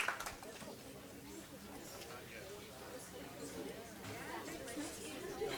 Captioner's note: audience chatters